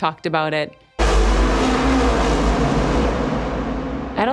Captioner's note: engines whirring